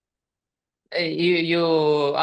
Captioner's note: speaking ukrainian